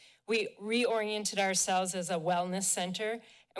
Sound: none

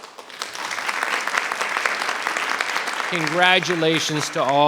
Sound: audience applauding

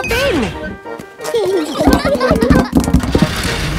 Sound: children giggling

